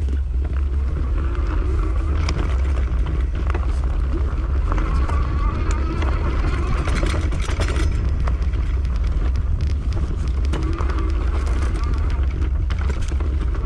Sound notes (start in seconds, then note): 0.7 motor running